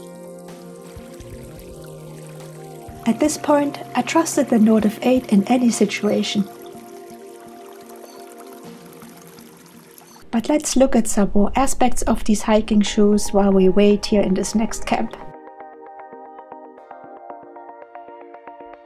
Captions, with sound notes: At this point, I trusted the Nortiv8 in any situation. [Sound of water gurgling in the creek] But let's look at some more aspects of these hiking shoes while we wait here in this next camp. [Upbeat music]